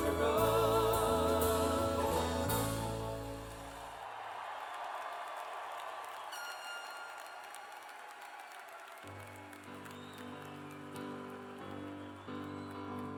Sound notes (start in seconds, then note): 9.9 cheers and applause